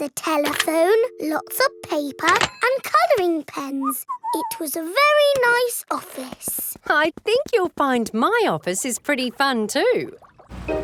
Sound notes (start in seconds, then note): 3.8 whistles